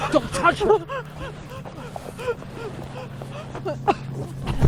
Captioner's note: Andrea gasping